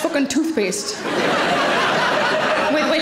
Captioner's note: audience laughing